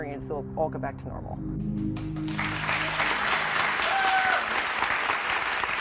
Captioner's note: audience cheering